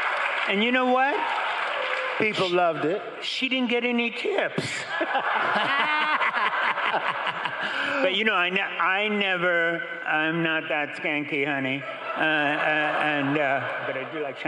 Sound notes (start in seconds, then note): 11.4 crowd and laughing